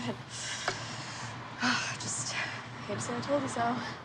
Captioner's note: sighs